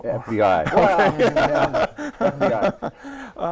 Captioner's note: laughter